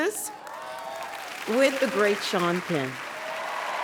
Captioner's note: audience applauding